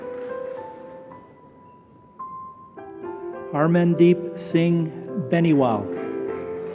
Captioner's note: applause